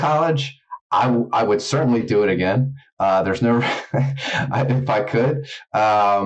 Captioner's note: laughs